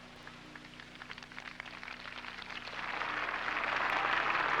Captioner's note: applauding